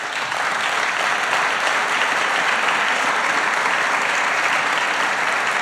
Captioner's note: applause